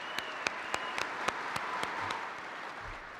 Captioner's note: cheers and applause